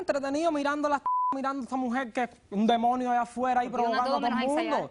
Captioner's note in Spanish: Bip